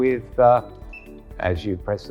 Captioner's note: camera beeps